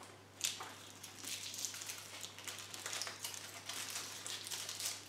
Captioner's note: tinfoil rustles